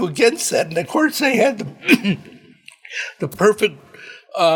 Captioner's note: clears throat